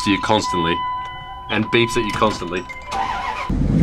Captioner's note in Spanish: Arranque del motor